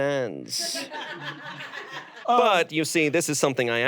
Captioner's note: audience laughs